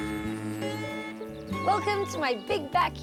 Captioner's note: buzzing